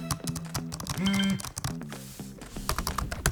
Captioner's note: keyboard clanks; phone vibrates; keyboard clanks